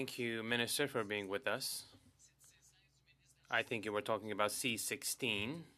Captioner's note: speaking French